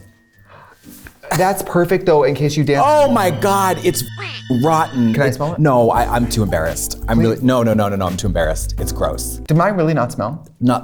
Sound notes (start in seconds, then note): 2.8 beep